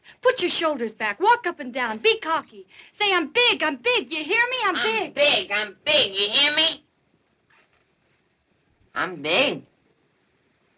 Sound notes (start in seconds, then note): none